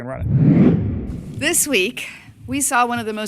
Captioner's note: audio whooshes